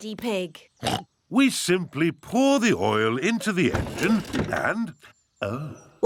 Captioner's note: oinks